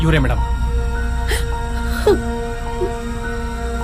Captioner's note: crying